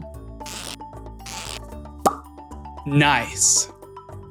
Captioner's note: pop